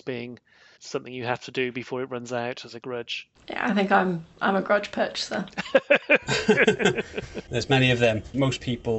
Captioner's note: laughter